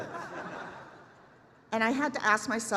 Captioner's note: laughter